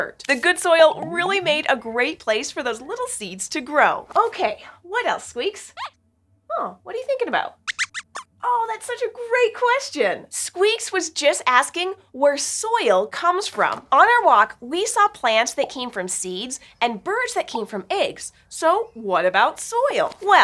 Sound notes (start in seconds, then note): 7.7 squeak squeaks